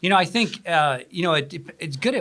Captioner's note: laugh